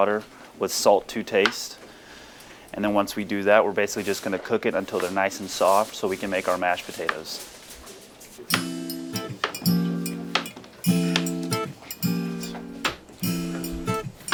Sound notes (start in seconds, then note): 8.4 relaxing music; 8.4 utensils thudding